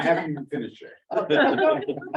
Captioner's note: laughter